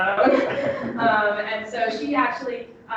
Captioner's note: audience laughing